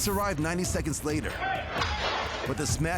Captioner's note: glass breaking